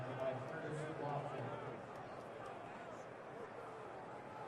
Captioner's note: pa announcement